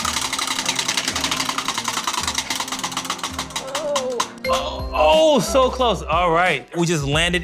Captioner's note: cheering